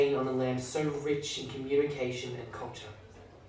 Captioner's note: none